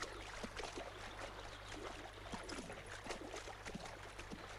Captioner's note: water splashing